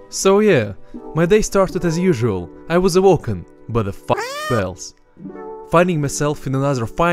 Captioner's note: meow